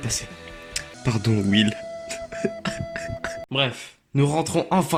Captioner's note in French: pleure